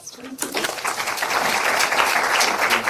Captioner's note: audience applauds